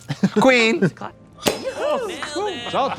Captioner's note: cork popping